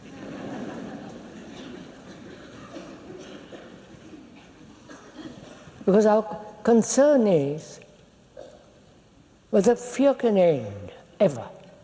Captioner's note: laughter